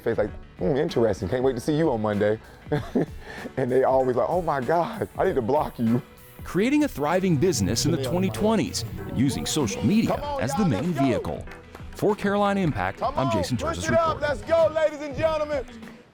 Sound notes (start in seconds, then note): 2.7 laughs